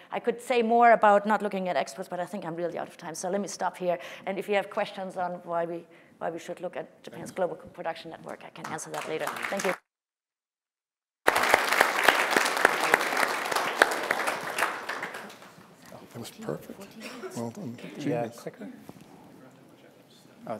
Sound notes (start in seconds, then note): 11.2 applause